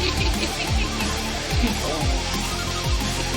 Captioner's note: woman laughing